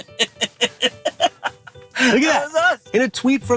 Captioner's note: Dale laughs